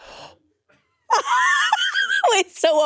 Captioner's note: laughs